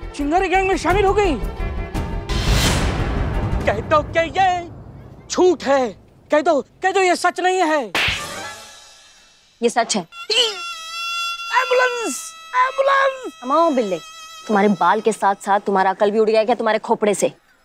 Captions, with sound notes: and joined Chingaari gang? Tell me this... is false! Tell me. [sings comically] Tell me this is not true. [slaps] This is true. Oh! Ambulance, ambulance. Hey, Billu! Have you lost your mind along with your hair?